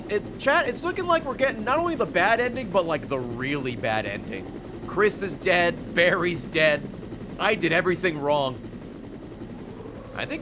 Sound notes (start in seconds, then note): none